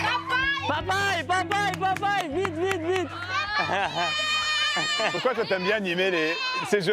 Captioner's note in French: applaudissements